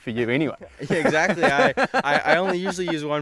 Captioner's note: laughing